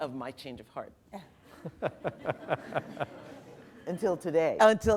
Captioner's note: laughter